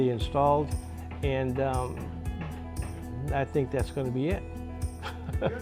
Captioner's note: laughs